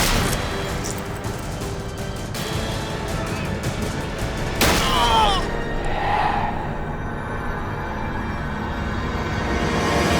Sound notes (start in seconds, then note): 4.8 groans